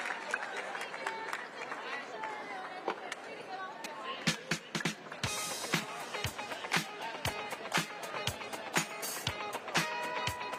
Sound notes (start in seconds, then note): 3.0 applause